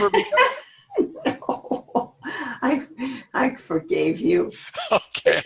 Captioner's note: laughs